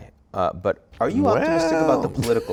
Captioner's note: laughing